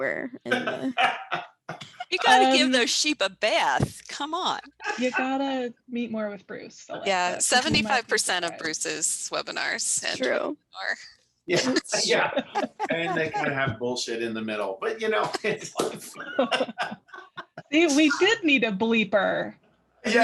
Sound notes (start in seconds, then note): 11.5 laughing; 14.8 attendees laughing